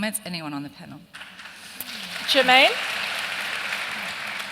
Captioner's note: applause